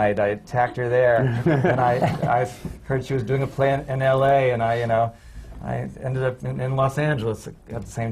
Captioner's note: laughter